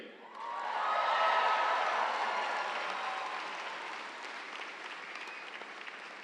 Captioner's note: audience cheering; audience applauds